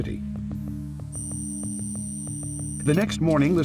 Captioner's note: camera equipment chirping